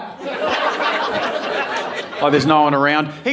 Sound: audience laughing

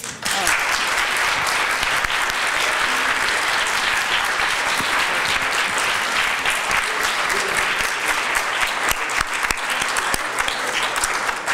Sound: applause

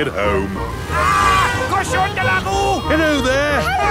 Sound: yells

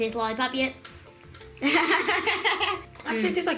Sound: laughs

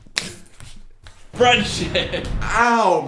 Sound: laughs

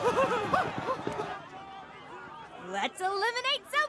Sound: cheering

